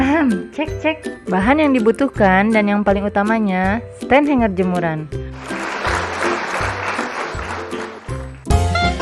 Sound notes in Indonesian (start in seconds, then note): 5.3 Tepuk Tangan; 8.7 Music Intro